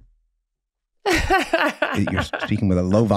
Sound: Meg laughing

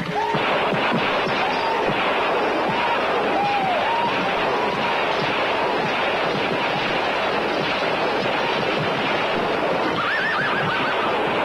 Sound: gunfire

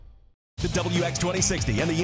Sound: voiceover

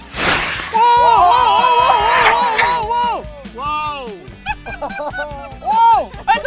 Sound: rockets whirring; loud cheering

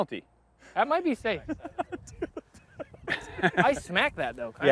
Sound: laughs

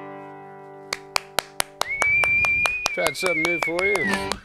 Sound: cheering

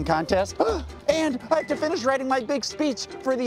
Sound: gasps

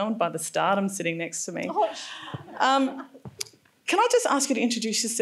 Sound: laughs

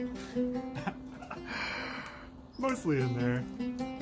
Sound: laughter

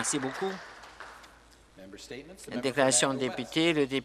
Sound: applause

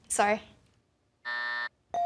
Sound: buzzer

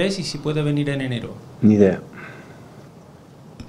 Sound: Spanish

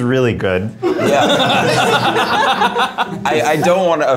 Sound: everybody laughs

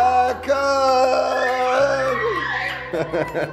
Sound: screaming; laughing

